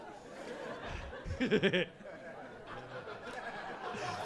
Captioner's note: audience laughing